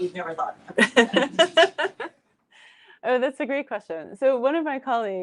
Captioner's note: laughs